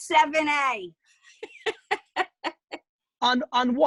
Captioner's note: laughing